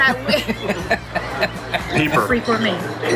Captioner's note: laughing